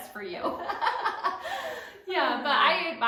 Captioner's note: laughter